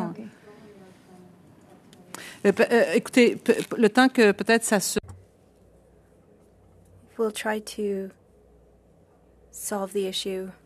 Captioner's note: speaking French